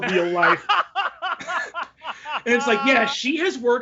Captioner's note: laughs